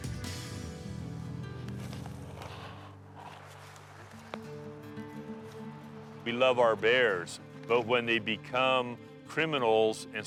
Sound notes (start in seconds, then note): 2.6 exhaling; 4.2 soft dramatic music